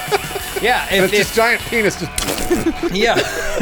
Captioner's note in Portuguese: pbrrrl